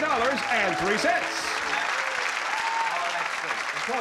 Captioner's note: applause and cheering